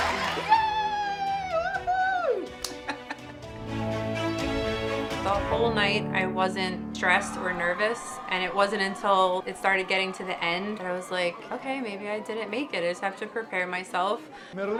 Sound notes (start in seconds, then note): 2.6 laughs